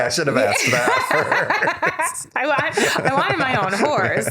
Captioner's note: laughter